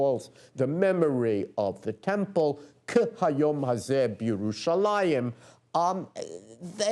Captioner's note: non-english speech